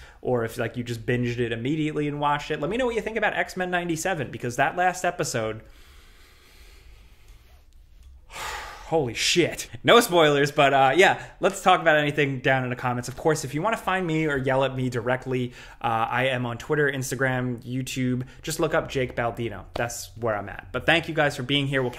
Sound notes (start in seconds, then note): 5.6 breathes heavily